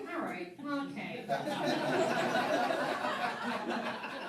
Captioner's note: laughing